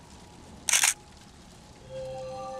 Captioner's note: camera click